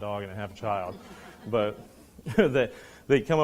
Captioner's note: students laughing